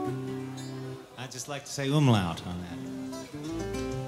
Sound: speaks in foreign language

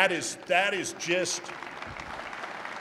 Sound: applause

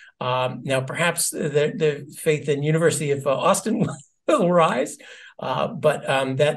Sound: laugh

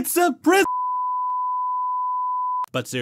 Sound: TV Test Noise

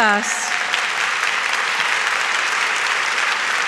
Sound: claps

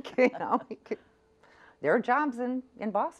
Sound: laughs

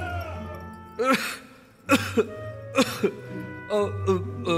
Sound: cough

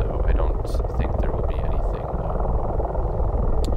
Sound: random babbling

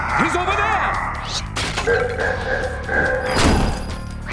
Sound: cackling

